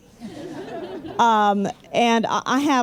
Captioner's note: laughter